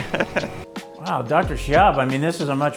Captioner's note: laughs